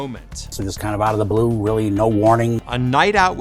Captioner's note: air whooshes